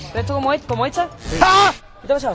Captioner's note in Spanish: Gritos